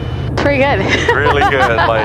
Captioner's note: laughing